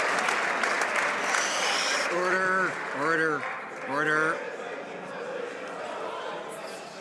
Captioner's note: some Applause